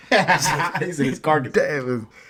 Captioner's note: laughing